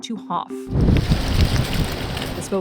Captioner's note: wind whooshing